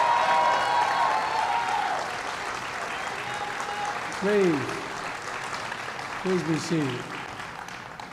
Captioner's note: applause